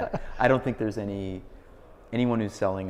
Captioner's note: laughs